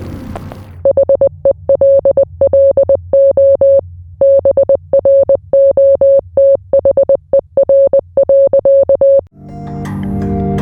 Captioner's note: morse code